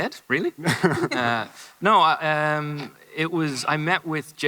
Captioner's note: driver chuckles